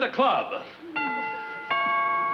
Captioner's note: doorbell rings